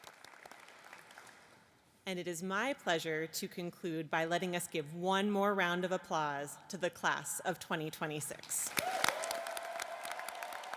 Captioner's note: applause